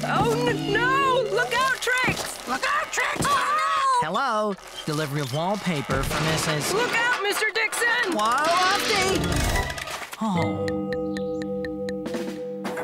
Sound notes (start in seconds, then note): none